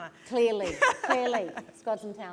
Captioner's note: laughter